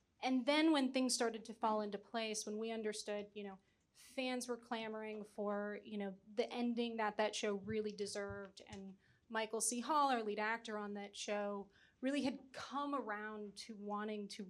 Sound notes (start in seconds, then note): none